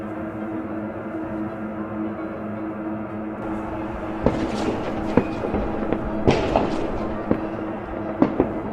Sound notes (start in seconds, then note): 0.2 eerie music; 5.0 gunshots banging